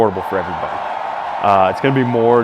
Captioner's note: crowd cheering